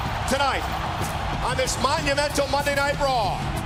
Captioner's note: crowd cheering